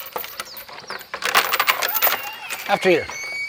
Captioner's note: door creaking